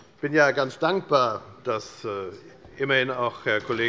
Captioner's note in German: none